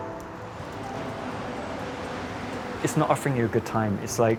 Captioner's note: traffic whooshes